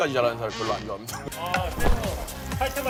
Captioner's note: whoosh!